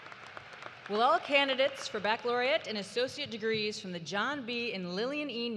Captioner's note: cheers and applause